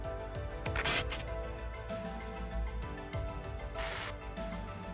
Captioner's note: radio static hissing; energetic suspenseful music continues